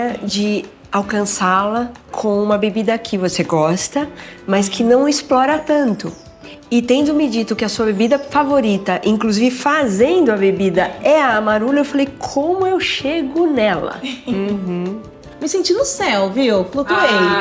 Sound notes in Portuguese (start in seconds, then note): 14.0 rindo